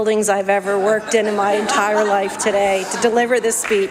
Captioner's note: applause